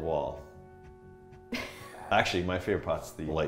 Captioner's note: laughing